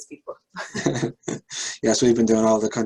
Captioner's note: laughter